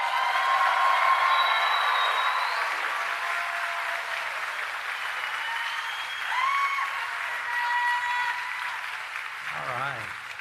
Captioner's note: applause